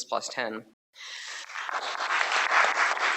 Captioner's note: applause